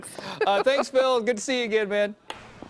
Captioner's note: laughter